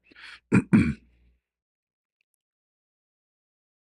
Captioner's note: berdehem